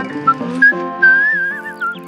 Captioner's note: whistling